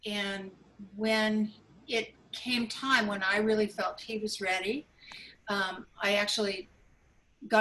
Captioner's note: none